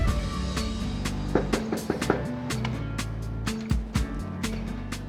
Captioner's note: knuckles knocking